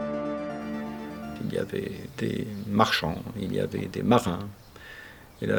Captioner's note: speaking French